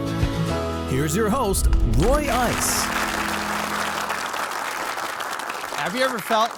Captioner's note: upbeat music; audience applauding